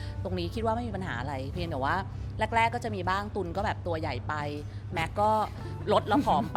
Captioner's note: giggles